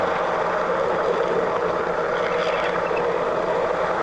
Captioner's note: train rumbling